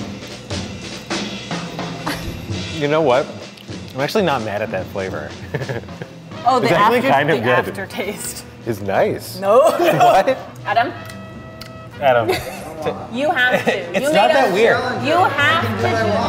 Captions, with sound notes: - You know what? I'm actually not mad at that flavor. - Oh, the after-- - It's actually kind of good. - The aftertaste-- - Is nice. - No! (laughs) Adam? - Adam. - I don't wanna. - You have to. - It's not that weird. - You have to.